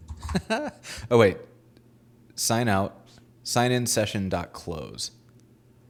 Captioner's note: laughing